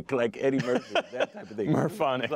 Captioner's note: laughter